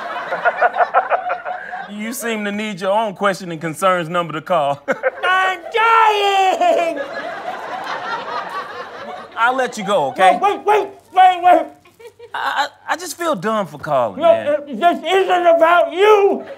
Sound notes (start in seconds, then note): 0.0 audience laughter; 0.0 laughs heartily; 4.7 laughs; 6.4 audience laughter